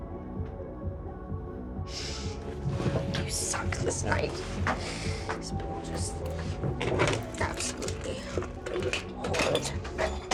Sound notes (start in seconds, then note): 5.5 muttering